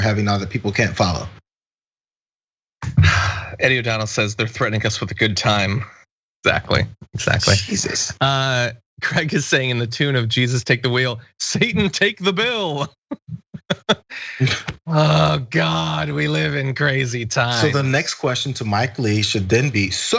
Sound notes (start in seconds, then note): 9.7 laugh; 12.6 laugh